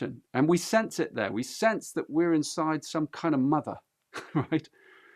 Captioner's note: laughs